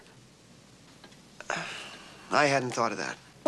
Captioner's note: sighing